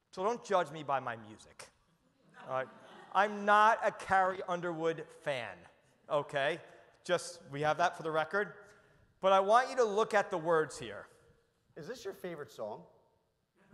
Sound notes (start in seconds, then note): 2.2 audience laughs